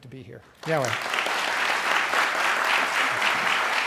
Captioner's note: applause